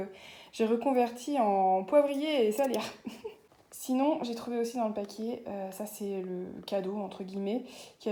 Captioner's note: laughs